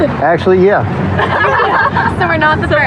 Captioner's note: laughghteter